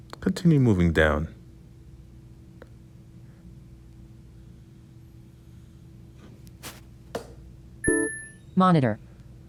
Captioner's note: ping